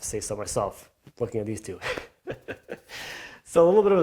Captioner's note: chuckles